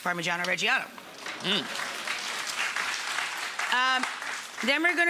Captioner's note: audience applauding